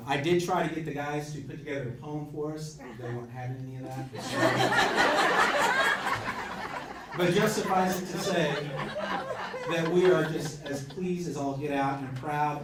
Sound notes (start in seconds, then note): 6.0 crowd laughs